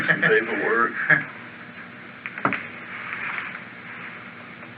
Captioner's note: laughs